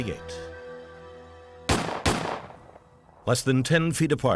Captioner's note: gunshots